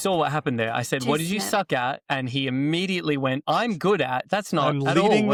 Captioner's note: laughs